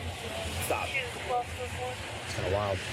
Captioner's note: radio Chatter